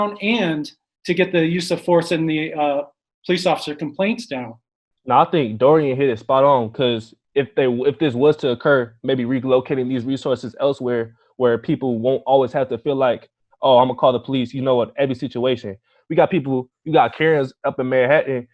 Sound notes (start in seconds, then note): none